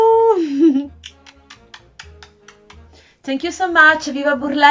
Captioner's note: kissing sounds